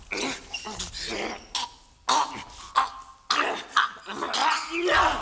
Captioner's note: YITZAK gasping for air